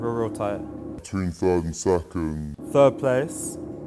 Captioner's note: slow motion voice